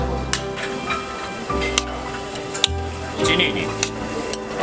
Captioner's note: laughs